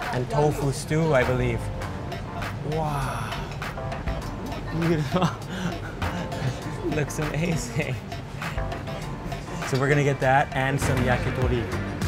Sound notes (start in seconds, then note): 4.6 laughing